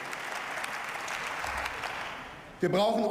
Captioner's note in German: Beifall